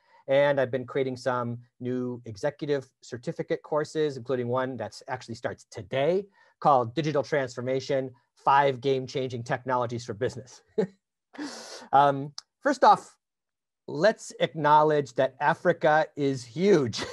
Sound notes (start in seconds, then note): 10.6 chuckles